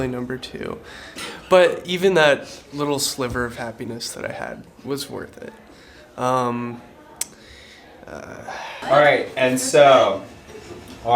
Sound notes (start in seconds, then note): 7.2 tongue click